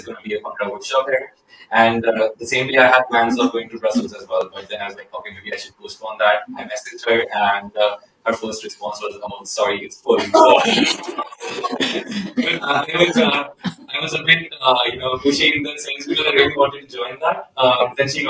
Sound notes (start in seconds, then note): 10.1 laughter